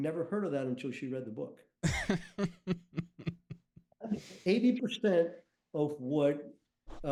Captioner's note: chuckles